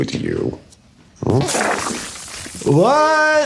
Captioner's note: water spurting; laughing